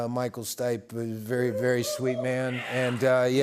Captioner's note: crowd cheers